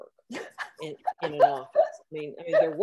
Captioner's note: laughs